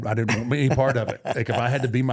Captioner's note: Rey laughing